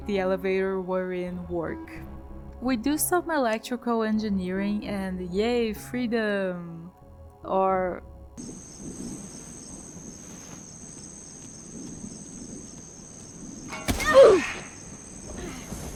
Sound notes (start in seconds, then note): 8.4 crickets